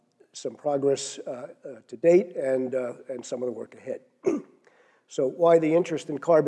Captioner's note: cough